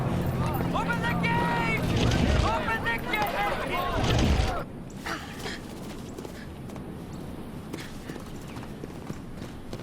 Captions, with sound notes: Open the gate! (gate rumbling) Open the gate! (grunting) (running footsteps)